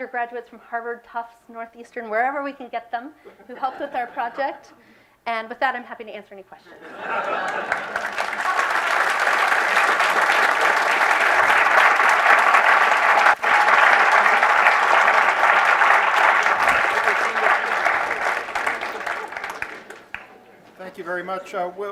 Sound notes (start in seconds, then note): 8.6 applause